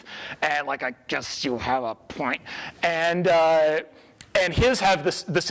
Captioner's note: strained